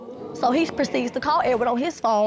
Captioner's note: audience gasping